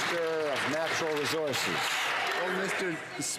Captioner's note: some Applause